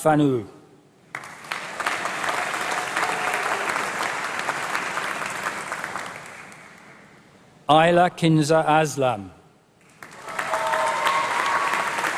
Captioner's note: applause